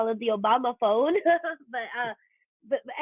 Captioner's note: chuckles